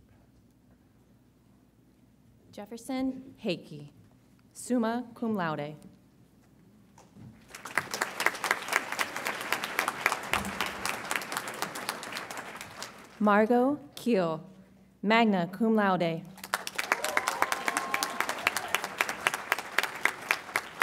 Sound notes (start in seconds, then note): 7.4 audience applauds; 16.4 audience applauds and cheers